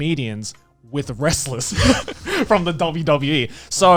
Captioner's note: laughs